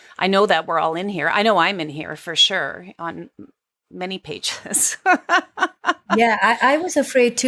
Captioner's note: laughs